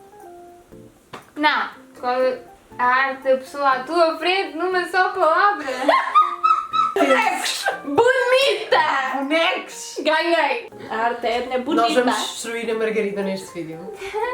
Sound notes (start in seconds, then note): 5.6 laughs